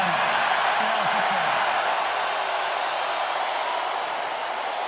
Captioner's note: crowd cheering